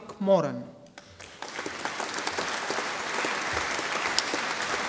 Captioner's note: audience applauding